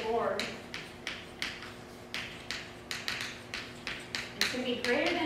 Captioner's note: chalk writing on chalkboard